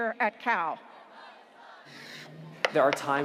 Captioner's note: students chanting